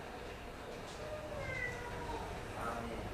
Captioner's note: meowww